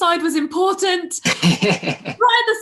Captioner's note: laughing